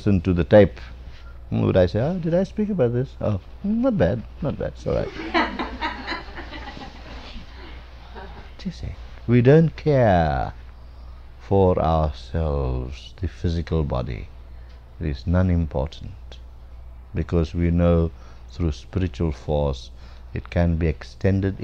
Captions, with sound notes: to the tape would I say, "Ah, did I speak about this? Oh. Not bad. Not bad. It's alright." [LAUGHTER] Do you see. We don't care for ourselves--the physical body. It is non- important, because we know through spiritual force it can be extended